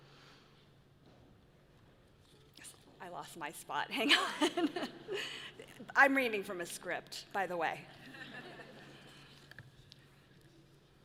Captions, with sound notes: I lost my thought, hang on (laughs). I'm reading from a script, by the way.